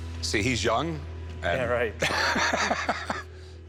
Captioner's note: laughing